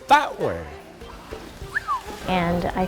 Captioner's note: whistles